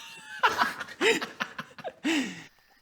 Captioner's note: giggles